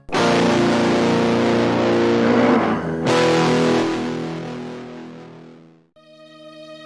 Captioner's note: hostile guitar riff; monster groaning